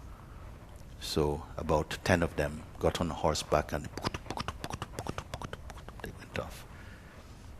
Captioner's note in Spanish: sonido de galope disminuyendo